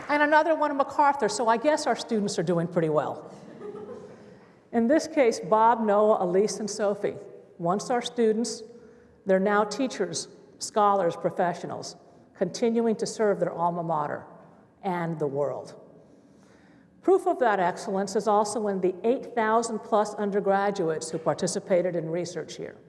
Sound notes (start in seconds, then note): 0.0 applause; 3.3 laughter